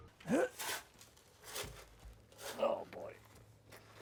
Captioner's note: grunting